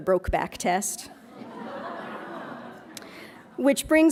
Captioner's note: laughs